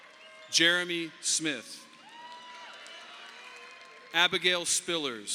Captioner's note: audience applauding